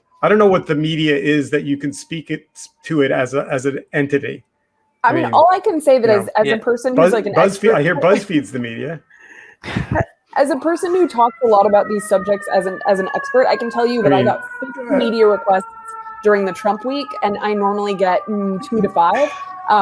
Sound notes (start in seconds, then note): 9.4 laughs; 12.7 siren wailing